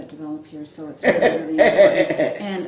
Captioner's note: laughs